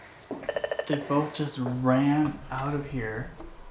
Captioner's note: machine beeping